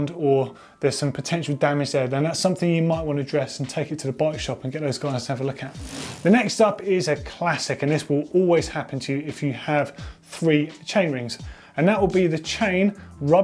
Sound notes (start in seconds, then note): 5.8 pedals whirring